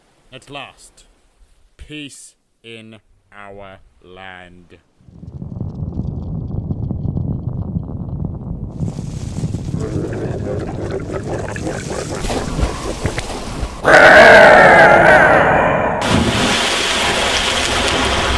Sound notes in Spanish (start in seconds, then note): 8.1 sonidos de retumbar